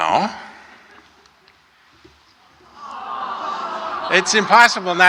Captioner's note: laughter